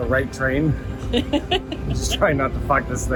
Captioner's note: female laughing